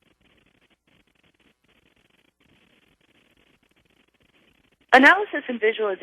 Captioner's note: pause